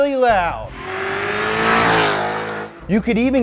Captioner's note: car revs